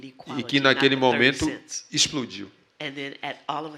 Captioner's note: speaking portuguese